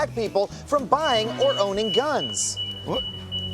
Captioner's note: alarm sounding